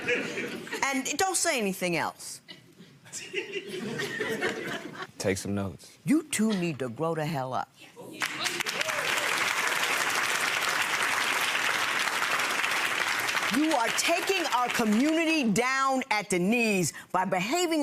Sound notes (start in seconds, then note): 0.0 audience laughing; 8.2 audience applauding